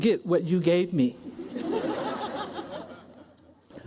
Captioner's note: laughter